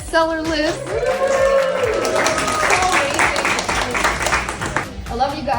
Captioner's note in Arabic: الجمهور يصفق ويهتف